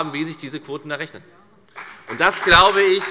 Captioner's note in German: Beifall bei der FDP